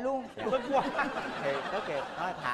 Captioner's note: laughing